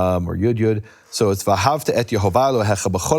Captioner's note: speaking in foreign language